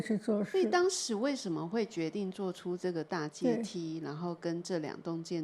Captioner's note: Mandarin